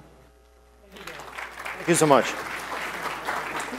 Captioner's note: applause